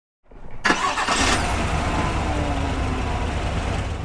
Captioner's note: car starts